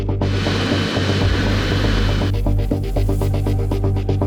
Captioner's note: aircraft announcement; energetic music; turbines whining